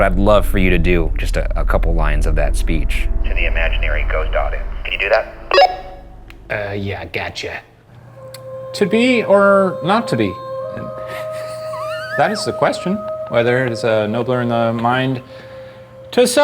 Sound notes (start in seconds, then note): 5.4 radio beeps; 11.1 laughing